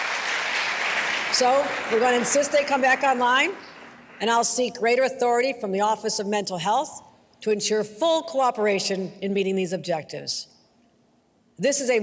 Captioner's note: applause